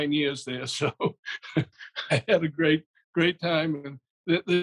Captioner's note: laughs